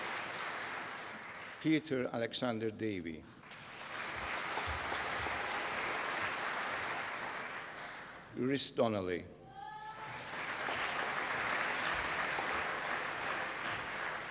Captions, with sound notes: Peter Alexander Davie. (APPLAUSE) Reece Donnelly. (APPLAUSE)